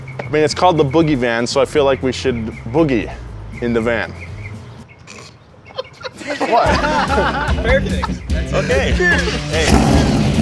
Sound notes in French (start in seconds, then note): 4.5 en riant